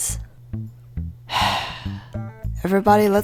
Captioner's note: sigh